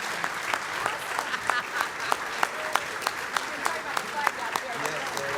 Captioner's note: applause